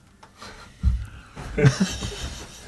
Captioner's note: laughs